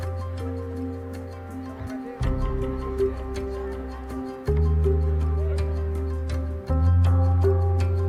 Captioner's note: people talking in background